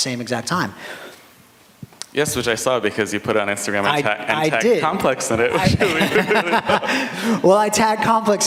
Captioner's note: laughter